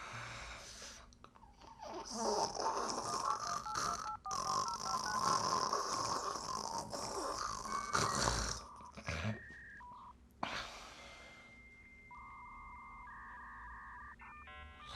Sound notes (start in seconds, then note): 2.6 cellphone ringing